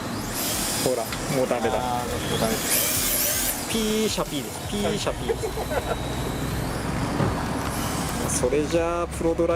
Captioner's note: laughs